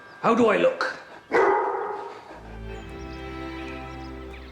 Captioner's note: dog barks